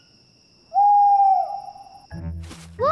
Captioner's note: owl hoots